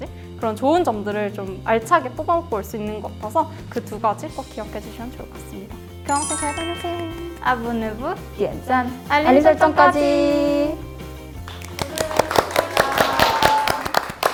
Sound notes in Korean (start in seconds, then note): 11.4 짝짝짝짝짝